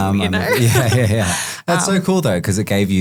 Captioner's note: group laughing